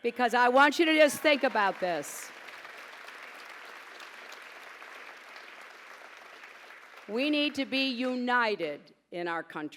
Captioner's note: pause, applause